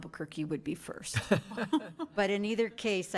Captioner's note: board laughs